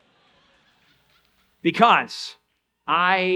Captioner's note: audience laugh